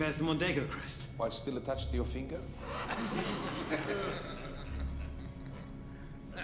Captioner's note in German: Männer lachen